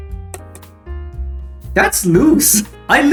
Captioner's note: tap tap